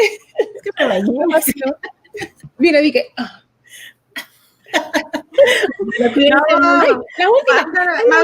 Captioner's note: laughs